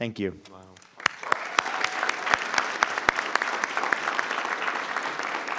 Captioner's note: applause